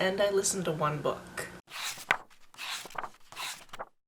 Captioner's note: pages turning